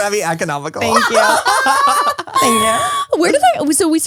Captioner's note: all laugh